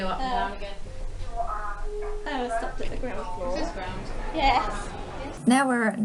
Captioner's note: Kone TMS chime